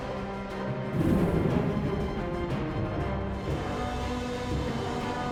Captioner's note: explosion booming